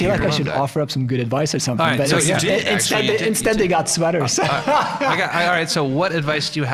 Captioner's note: laughing